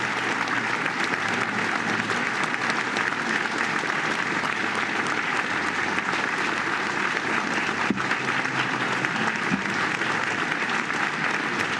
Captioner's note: applause